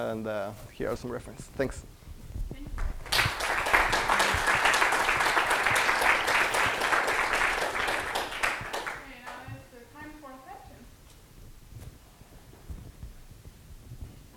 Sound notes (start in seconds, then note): 2.8 applause